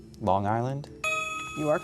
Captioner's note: ding